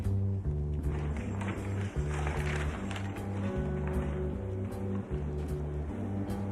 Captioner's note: upbeat music; paper rustles